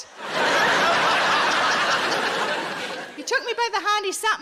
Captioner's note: audience laughing